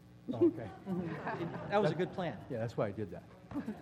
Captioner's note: laugh; laugh